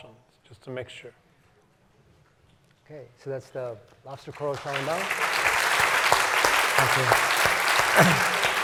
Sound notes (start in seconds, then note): 4.2 applause